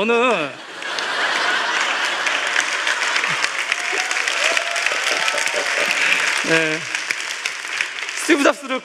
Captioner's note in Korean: 웃음과 박수